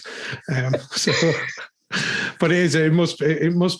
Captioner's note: laughs